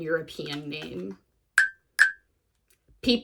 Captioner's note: blink sound effect plays